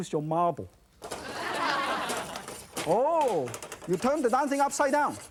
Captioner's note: audience laughs